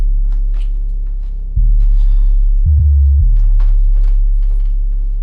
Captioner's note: footsteps shuffle